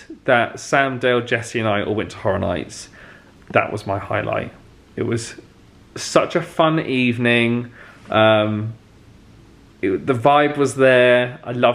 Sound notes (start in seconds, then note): none